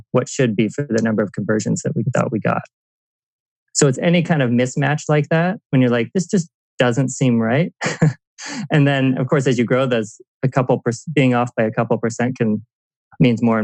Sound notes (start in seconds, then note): 7.8 laughs